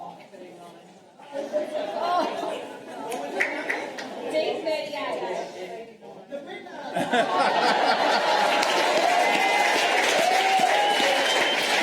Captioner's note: applause